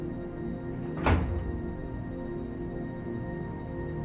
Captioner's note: door opens